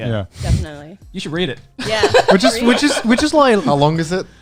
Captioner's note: laughing